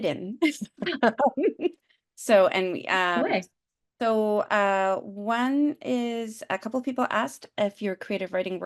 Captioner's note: laughter